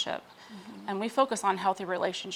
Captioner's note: person mmhmms